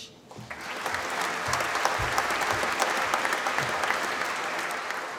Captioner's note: applause